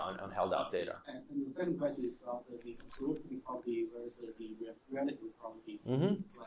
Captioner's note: faintly speaking